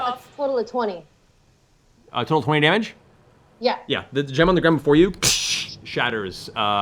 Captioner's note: glass breaking noise